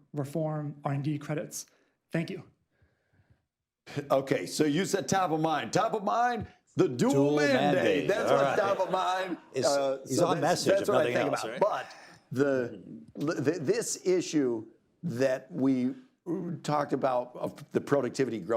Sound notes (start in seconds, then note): 7.4 laughter